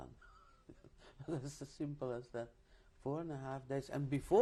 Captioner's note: laughs